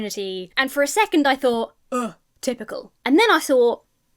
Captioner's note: scoffs